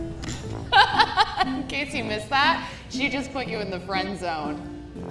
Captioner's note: laughs